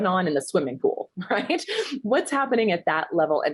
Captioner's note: chuckles